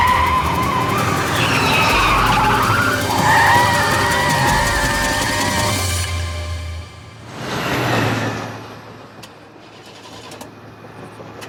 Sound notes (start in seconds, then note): 3.6 tires squeal